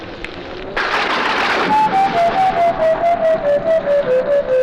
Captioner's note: thunder crashes; mysterious music